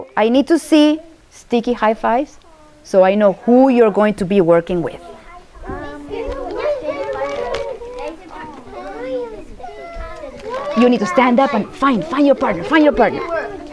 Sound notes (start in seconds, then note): 6.5 chattering and pairing up